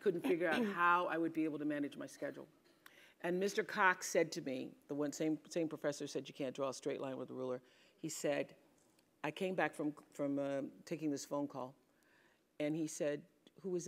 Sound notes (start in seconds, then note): 0.6 cough